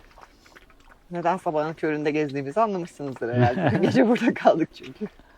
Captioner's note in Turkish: kahkaha